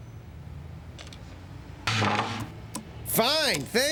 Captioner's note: door opens